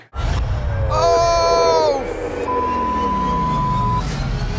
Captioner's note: beep